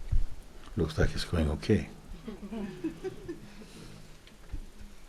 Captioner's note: laughter